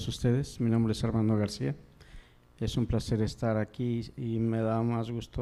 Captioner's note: audience member speaking in Spanish